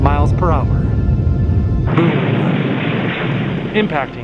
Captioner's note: rumbling and explosion